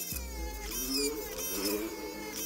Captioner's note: bike sounds in distance